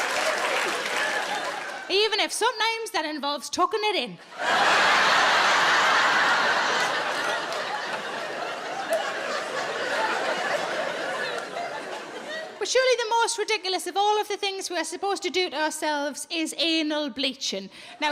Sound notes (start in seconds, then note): 4.2 audience laughs